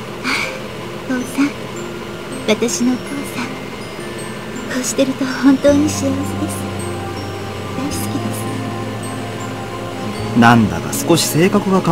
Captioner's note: rain